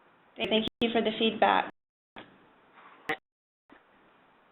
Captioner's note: voiceover